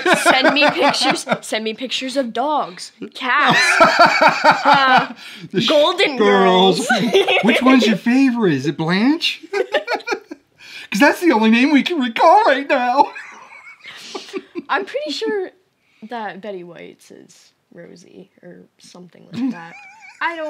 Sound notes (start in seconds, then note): 6.5 laughing; 13.0 laughing